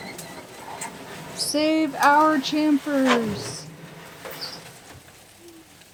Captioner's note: chants